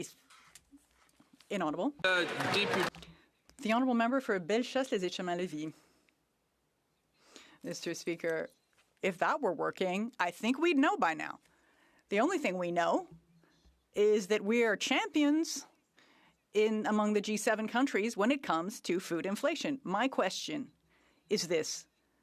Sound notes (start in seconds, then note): 9.9 speaking French